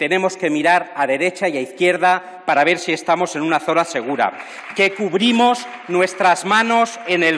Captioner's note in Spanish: aplausos